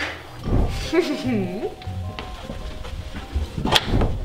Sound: mischievous laugh

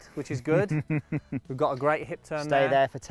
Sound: chuckling

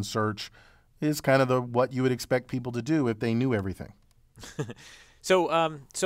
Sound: laugh

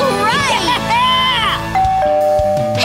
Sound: doorbell

